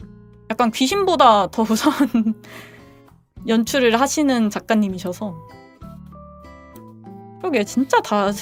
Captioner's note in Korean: 웃음